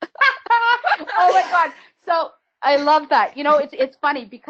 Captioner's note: laughs